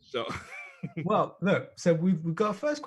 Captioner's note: laughs